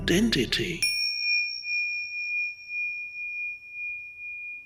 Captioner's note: logo beep